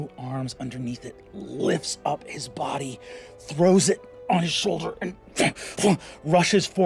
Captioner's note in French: grogne